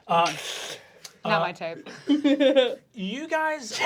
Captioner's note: laughing